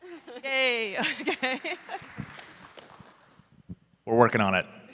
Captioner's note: laughter